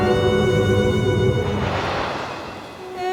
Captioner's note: thunder crash; female soloist singing